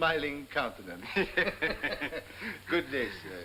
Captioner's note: both laughing